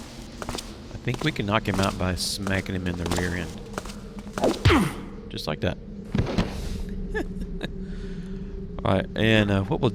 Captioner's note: laughs